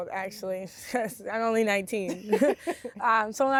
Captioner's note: both laughing